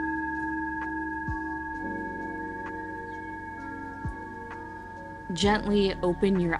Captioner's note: chime